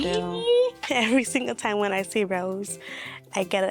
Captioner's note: laughing